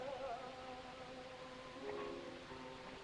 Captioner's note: none